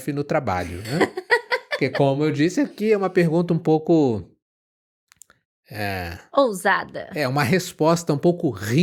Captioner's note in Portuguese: risadas